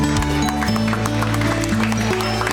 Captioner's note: applause